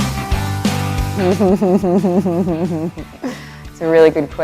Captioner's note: laughs